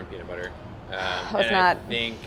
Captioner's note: sighs